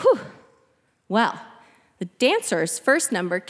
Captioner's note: exclaiming